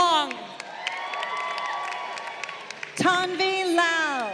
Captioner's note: crowd cheering